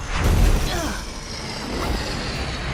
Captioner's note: grunts